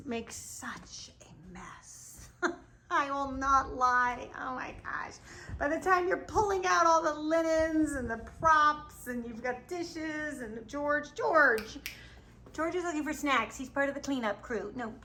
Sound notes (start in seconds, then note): 2.0 laughs; 11.5 snaps fingers